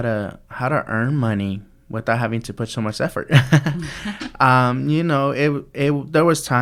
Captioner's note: laughs